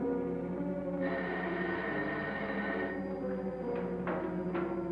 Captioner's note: phone ringing